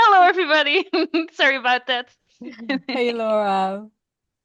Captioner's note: laughs